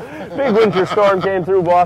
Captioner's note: laughing